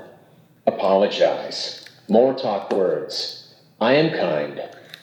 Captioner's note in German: Sprachgerät